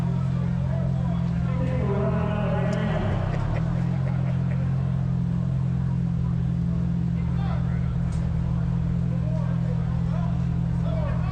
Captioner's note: crowd chattering